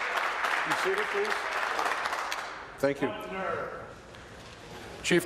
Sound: applause

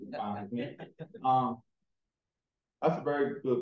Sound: chuckling

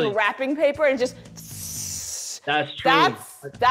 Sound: mimics scissors gliding

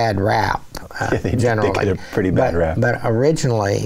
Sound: chuckling

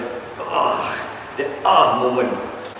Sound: grunting

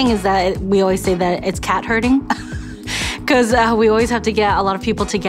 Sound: laughs

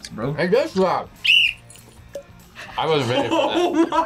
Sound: whistles; laughs

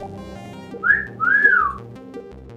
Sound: whistles

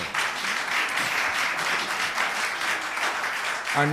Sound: applause

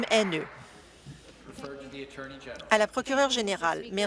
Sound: applause

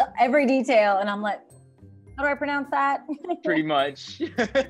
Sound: laughs

